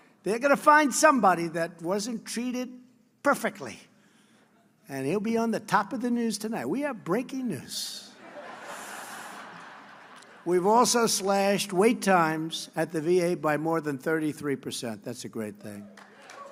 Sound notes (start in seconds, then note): 8.2 laughter